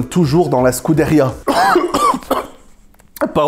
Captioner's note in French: tousse